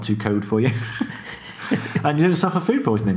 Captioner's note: laughing